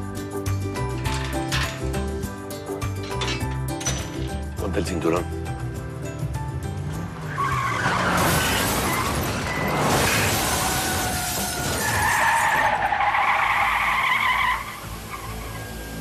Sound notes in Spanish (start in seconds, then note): 8.3 Chirrido de llantas; 9.7 Estruendo